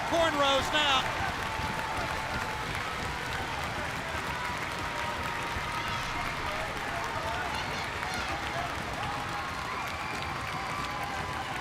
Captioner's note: crowd cheering